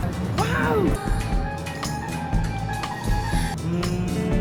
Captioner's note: heart pounding